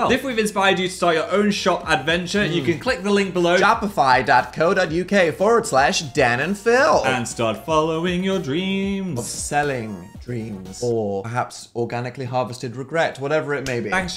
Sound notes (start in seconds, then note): 4.1 imitates American accent